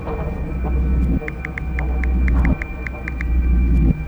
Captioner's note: phone clicks; ominous music